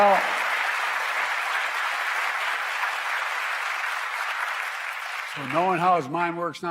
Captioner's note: applause